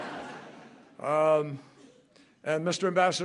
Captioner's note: laughter